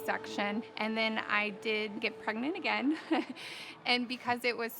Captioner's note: laughs